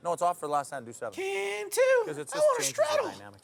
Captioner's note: high pitched voice